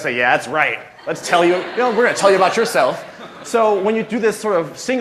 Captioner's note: laughter